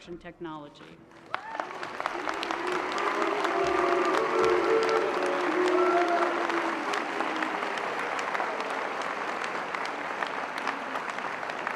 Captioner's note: applause